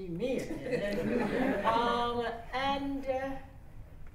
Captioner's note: laughter